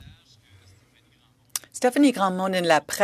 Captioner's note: speaking French